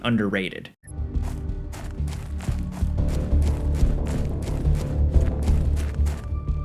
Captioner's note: tense mysterious music; footsteps crunching